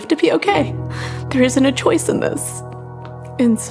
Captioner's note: voice cracking